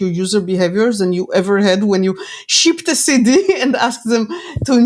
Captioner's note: laughs